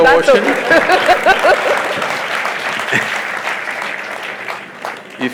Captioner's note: laughter/Applause